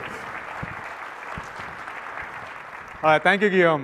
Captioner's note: applause